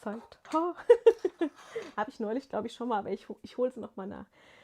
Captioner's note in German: gelächter